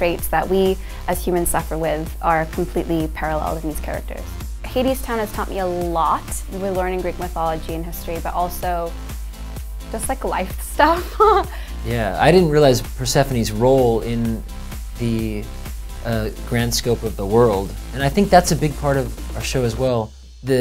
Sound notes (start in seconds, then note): 11.0 laughs